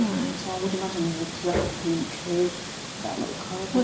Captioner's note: bang noise